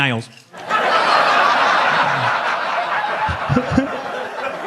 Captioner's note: audience laughs